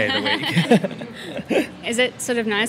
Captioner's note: laughs